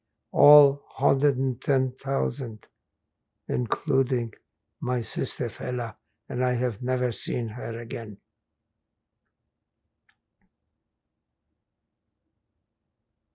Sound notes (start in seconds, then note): 8.4 pauses 8 seconds